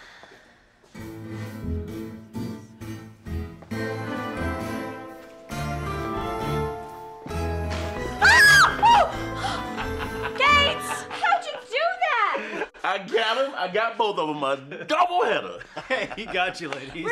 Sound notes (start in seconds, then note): 9.8 screams